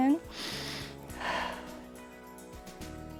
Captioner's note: inhales and exhales